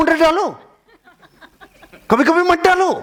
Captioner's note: laughing